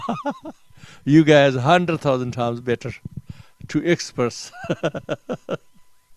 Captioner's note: laughs; laughs